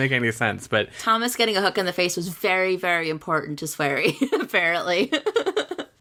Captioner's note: laughs